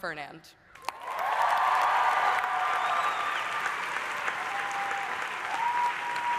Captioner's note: audience applauding; audience cheering